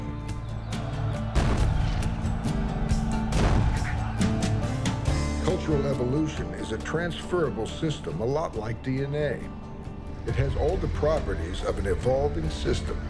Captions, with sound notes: [cannon fire] [crowd yelling] Cultural evolution is a transferrable system a lot like DNA. It has all the properties of an evolving system.